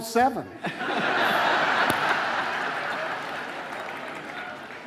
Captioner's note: audience laughing